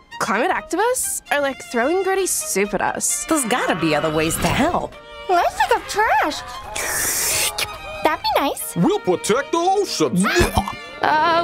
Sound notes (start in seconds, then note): 6.8 slurp; 10.1 barf